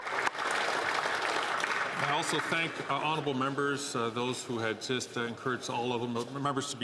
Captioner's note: some Applause